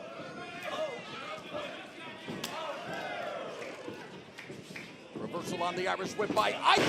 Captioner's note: crowd chatter